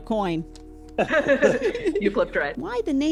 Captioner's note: everyone laughs